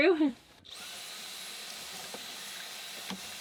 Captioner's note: whirring